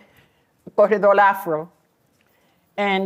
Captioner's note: non-english